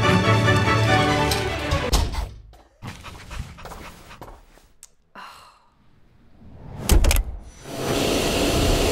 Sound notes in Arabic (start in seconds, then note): 1.2 الباب يغلق